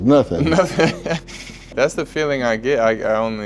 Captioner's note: laughing